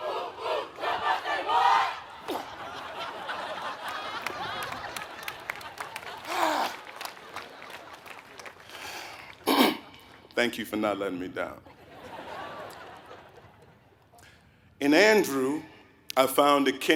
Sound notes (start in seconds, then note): 4.9 cough; 4.9 laugh